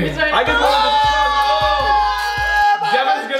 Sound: screams

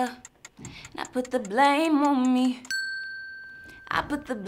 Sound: bell dings

